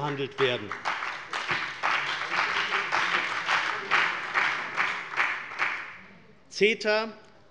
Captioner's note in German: Beifall bei der CDU